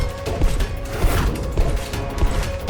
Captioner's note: bangs